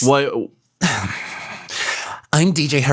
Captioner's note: sighs